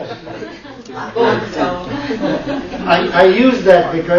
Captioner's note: laughter